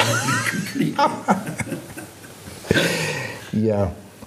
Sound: laughing

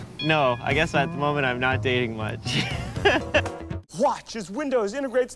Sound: laugh

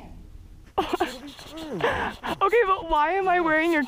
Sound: laughing

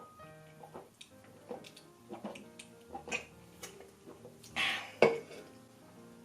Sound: gulping

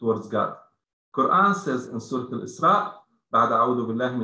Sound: speaking arabic

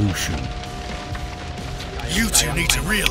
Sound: fire crackling

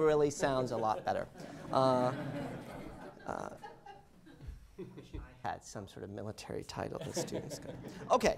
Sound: laughter

